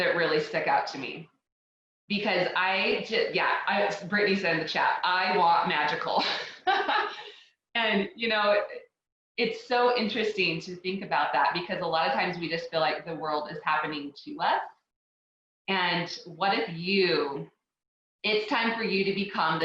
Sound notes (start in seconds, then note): 6.2 laughs